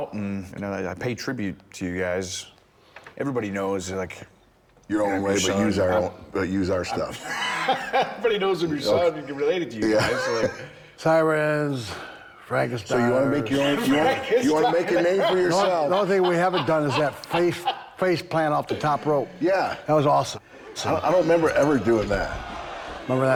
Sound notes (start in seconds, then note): 7.4 Bron laughing; 13.4 laughing